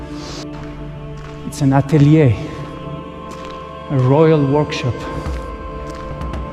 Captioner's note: breathes heavily; sniffs